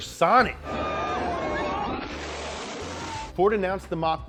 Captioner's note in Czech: řev